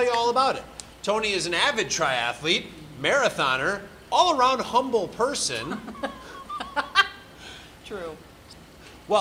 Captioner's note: laughs